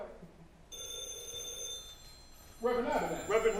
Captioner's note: phone rings